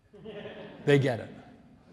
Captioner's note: audience laughs